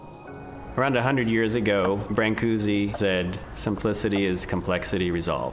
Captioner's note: voice-over